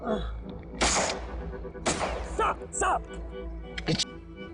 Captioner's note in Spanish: Detonación de disparo